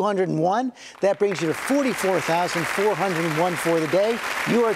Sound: audience applauding

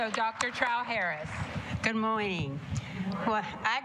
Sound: applause

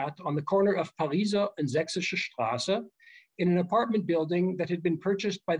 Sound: german

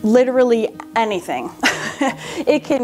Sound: laughs

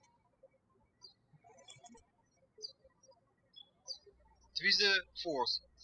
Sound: birds chirping

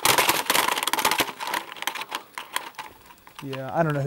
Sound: rattling

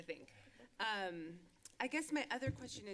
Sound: clicks tongue

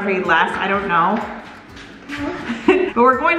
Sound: steps clacking

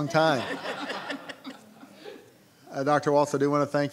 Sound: laughing

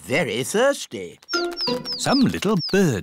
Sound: tweeting

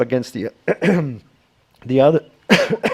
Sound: coughs

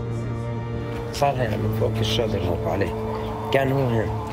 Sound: speaking Arabic

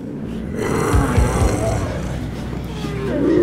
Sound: growling

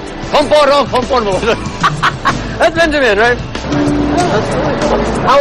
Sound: non-english speech; laughs

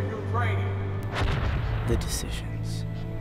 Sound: explosion booming

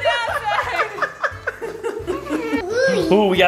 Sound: laughing

